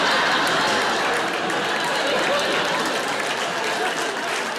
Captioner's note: audience laughs; audience applauds